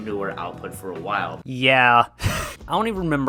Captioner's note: laughs